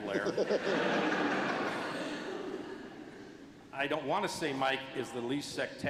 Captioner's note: laughter